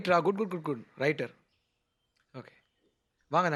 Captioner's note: mumbling